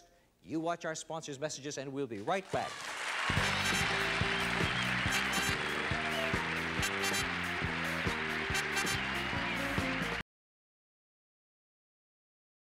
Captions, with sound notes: you watch our sponsors' messages and we'll be right back. [upbeat game show music] [audience applauds]